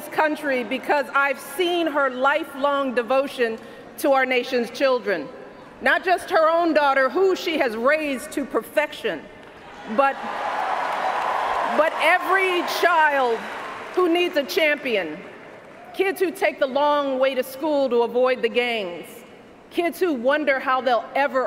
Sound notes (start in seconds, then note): 10.1 cheers, applause